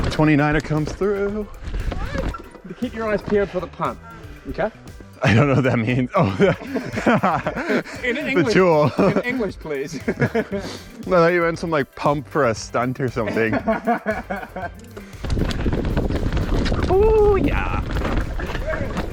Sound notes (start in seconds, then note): 5.2 laughs; 13.2 laughs